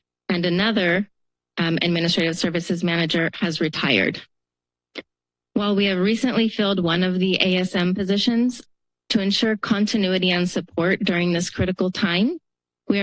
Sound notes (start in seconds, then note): 3.6 pause